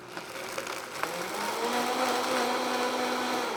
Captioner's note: blender whirrs